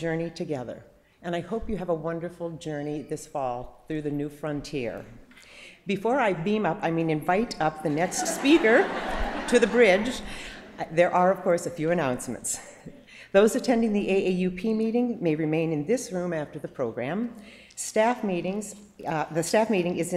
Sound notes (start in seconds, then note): 10.6 laughter